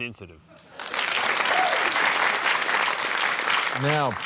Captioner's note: applause